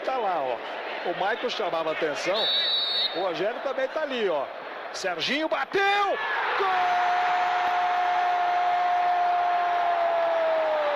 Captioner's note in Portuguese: aplausos